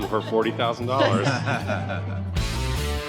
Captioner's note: laughter